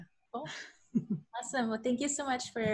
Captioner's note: laughs